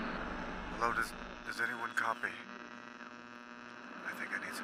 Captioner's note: man On Radio